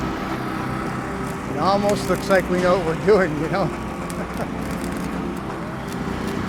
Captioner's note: laughs